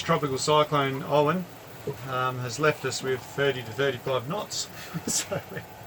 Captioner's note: laughs